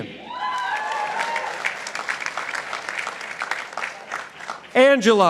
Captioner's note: participants applauding